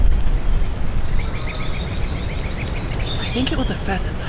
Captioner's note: birds tweeting